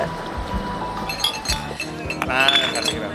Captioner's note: glasses clinking; speaking Spanish